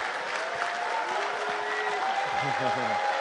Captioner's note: applause